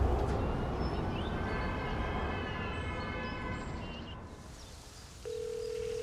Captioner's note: wind blowing; siren blaring; birds singing; phone ringing